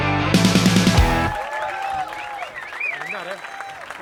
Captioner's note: Applausi